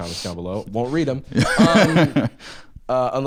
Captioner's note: laughs